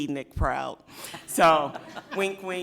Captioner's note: people laughing